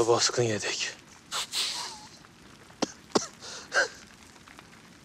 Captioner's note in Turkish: Gülme sesi